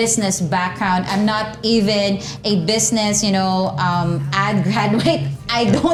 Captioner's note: laughs